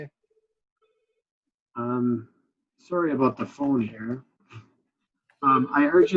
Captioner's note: phone ringing